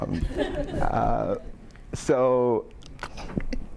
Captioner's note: audience laughing